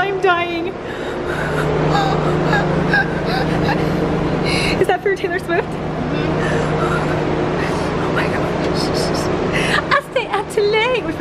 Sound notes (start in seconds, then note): 0.8 wheezing; 6.2 breathing heavily